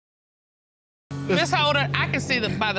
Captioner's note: crowd laughs